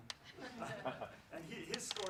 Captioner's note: laughs